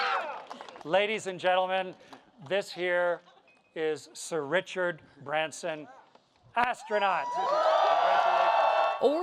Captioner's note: cheers and Applause